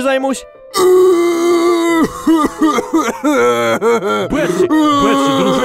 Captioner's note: crying